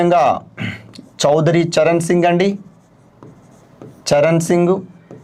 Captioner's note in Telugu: గొంతు సవరించుకోవడం